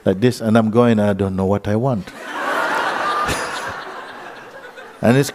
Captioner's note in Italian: Risate